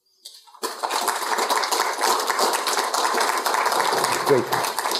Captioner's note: applause